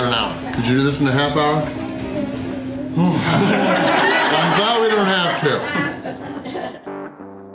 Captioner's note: laughter